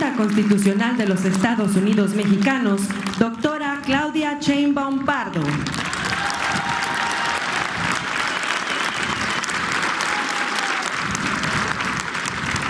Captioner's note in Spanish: aplausos